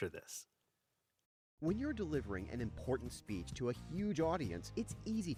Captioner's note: voiceover